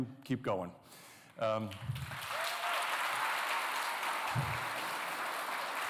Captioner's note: applause